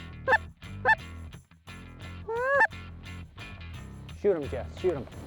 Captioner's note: geese calls